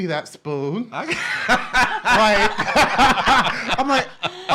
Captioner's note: laughs